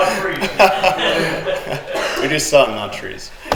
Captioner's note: all laugh